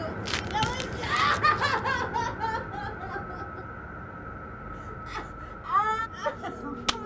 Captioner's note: bones crunching; Heather yelling